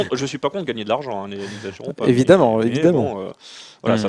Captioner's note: laughs